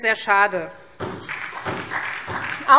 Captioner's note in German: Beifall SPD